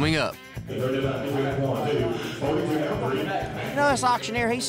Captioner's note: auctioneer speaking fast